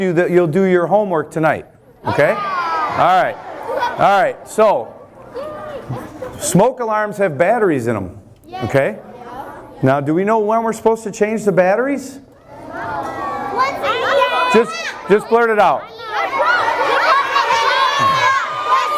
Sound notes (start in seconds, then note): 12.2 kids talking; 16.1 kids yelling